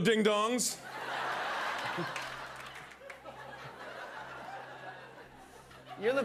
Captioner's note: laughter